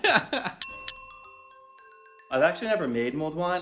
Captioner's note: laughing; bell ringing